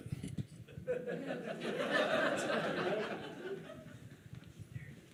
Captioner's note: audience laughing